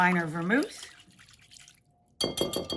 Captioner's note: mixture splashes in bowl; taps whisk